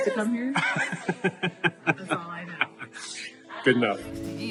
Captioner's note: laughing